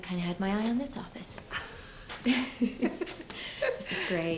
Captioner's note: both chuckling